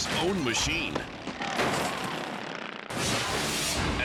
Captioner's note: vehicle crashing; dramatic air whoosh